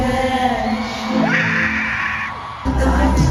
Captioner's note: another not normal scream